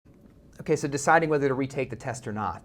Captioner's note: voiceover